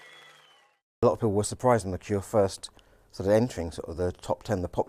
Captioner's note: cheers and applause